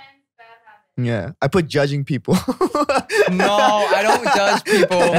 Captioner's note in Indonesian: tertawa